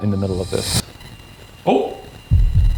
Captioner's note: REM-Pod beeps